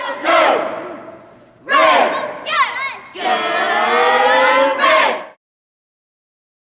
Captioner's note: students cheering